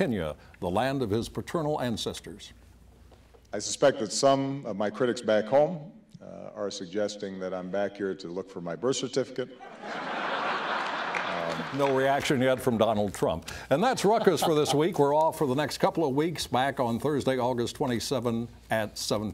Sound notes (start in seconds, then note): 6.7 laughter